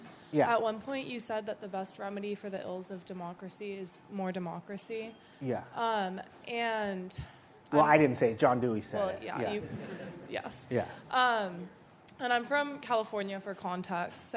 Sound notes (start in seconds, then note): 9.5 laughter